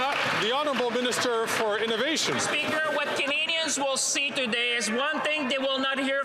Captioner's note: some Applause